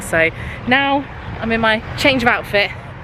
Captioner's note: none